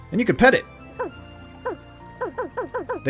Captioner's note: infinite tiny bark; tiny bark; 2x tiny bark